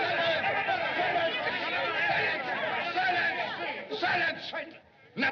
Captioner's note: bar Patrons Shouting; shouting Stops